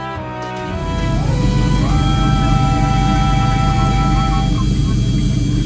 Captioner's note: airplane whooshing